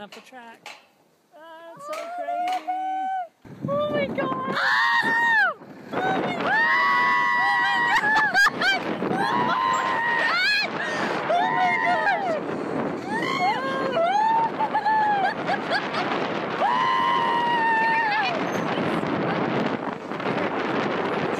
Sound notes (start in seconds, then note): 9.1 screaming; 11.3 air whistling